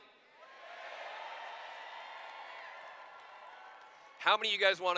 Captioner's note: cheers